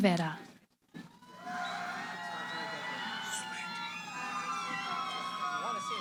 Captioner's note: cheering